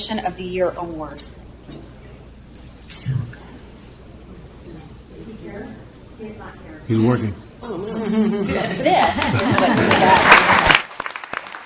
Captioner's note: applause